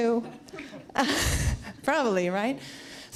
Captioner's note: laughs